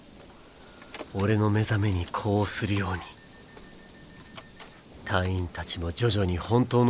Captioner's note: none